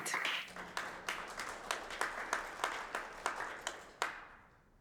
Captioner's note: audience applauding